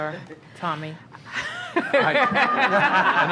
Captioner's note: laughter